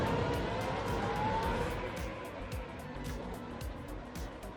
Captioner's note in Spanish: el motor ruge